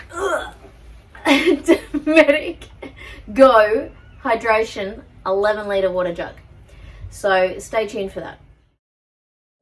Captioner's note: laughs